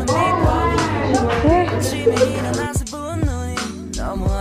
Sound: Mandarin

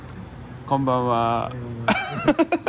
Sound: laughs

